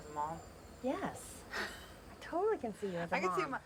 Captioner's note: laughs